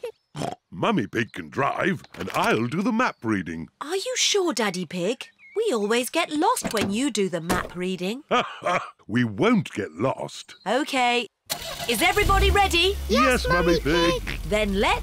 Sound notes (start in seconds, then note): 0.2 snorts; 8.2 laughs